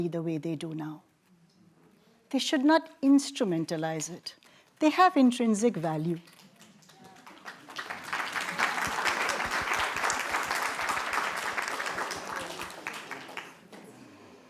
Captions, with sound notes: the way they do now. They should not instrumentalize it. They have intrinsic value. [APPLAUSE]